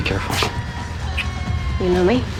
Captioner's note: smooch